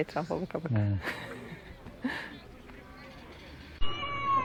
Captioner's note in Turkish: kahkaha